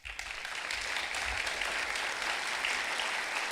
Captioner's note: clapping